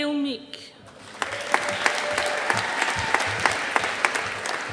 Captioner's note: audience applauding